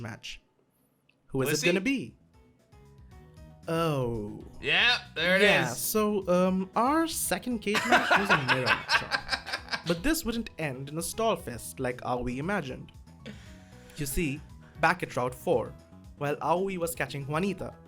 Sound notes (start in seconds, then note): 7.8 laughs